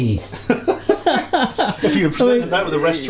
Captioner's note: both laughing